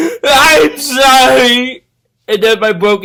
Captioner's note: llora